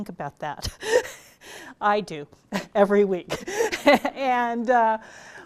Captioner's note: laughs